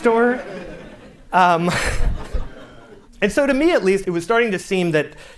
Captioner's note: laughter